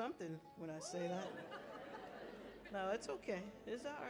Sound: audience laughing

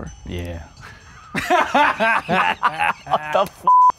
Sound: laughing

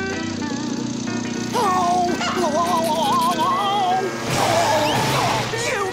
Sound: crashing

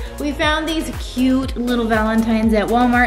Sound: none

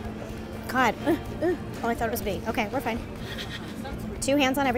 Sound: grunts

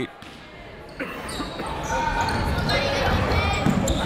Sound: chatter

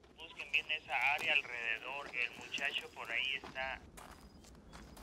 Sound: man on radio speaks Spanish

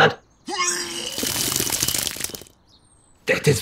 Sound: vomits

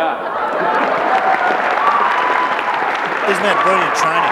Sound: applause

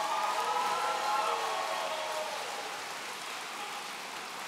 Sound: audience cheering

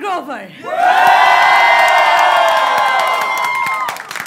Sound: crowd cheers loudly

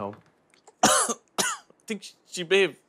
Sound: coughs

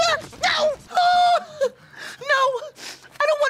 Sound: yells

